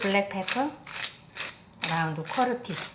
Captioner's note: pepper mill grinding